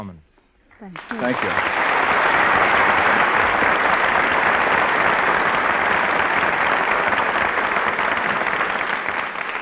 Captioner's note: applause